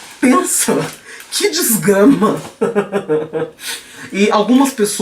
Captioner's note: laughing but wanting yo cry